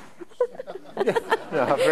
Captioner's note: laughing